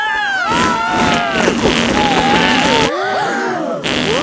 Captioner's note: both screaming; crowd gasps